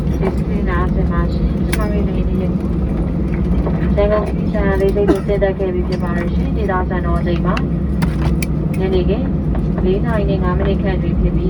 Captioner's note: cabin crew on PA, speaking Burmese